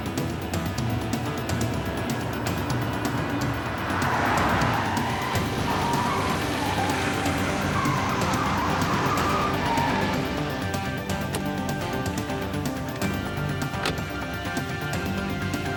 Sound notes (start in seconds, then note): 3.2 tires rumbling; 5.2 tires screeching; 13.7 car door slams